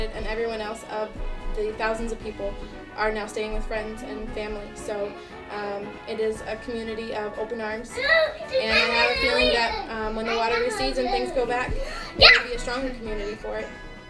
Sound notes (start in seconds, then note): 7.9 kids yelling